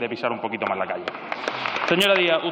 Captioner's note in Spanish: Aplausos